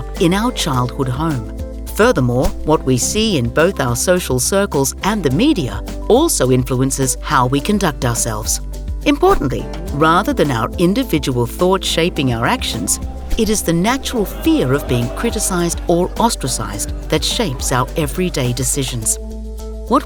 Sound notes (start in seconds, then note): 13.4 people jeering